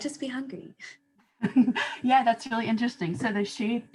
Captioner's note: laughter